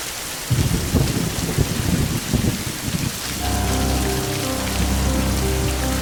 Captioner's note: thunder rolling; dramatic music